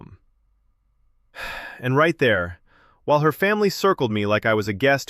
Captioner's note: sighs